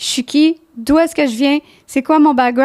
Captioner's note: in french